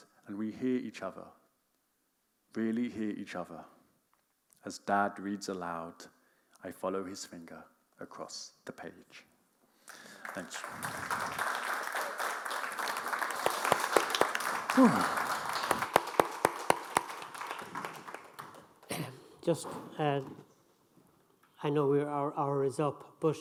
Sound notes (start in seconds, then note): 9.8 audience clapping